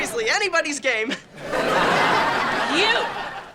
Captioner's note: audience laughing